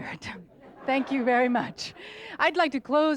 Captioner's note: audience laughs